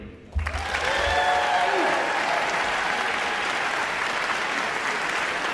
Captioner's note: audience cheering and applauding